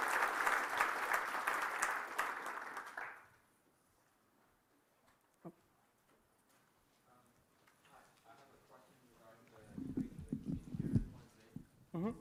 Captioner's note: applause